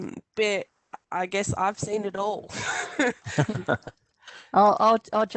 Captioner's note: laughs